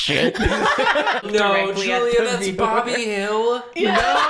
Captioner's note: laughing; in disbelief; laughing